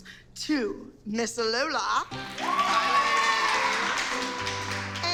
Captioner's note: cheering and applause